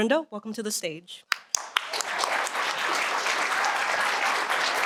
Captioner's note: applause